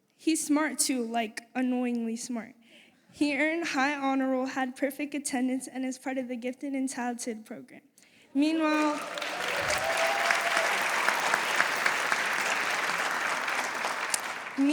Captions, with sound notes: He's smart, too, like annoyingly smart. He earned high honor roll, had perfect attendance, and is part of the gifted and talented program. Meanwhile-- [APPLAUSE]